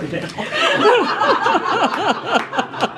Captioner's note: laughter; laughs